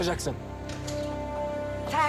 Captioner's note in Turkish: Kapı sesi